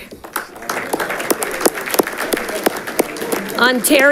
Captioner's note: audience clapping